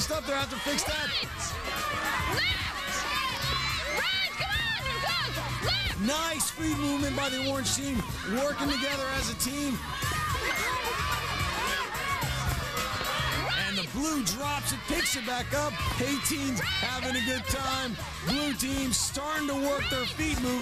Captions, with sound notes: THEY'RE GOING TO HAVE TO FIX THAT. ■■ NICE FEET MOVEMENT BY THE ORANGE TEAM, WORKING TOGETHER AS A TEAM. [CHEERING] AND THE BLUE DROPS IT, PICKS IT BACK UP. A-TEENS HAVING A GOOD TIME. BLUE TEAM'S STARTING TO WORK THEIR FEET MOVEMENT.